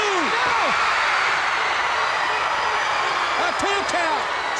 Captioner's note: hands thudding; crowd cheering